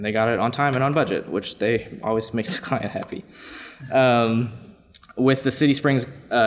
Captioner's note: laughs